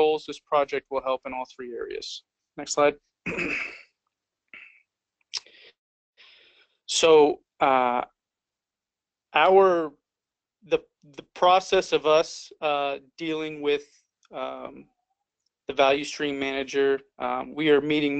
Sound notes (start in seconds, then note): 3.2 cough